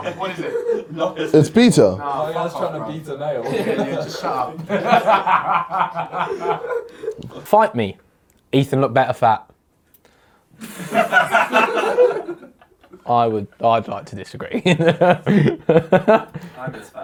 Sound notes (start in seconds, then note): 0.0 audience mumbles; 3.4 audience mumbles; 3.4 audience laughs; 10.6 audience laughs; 14.6 laughs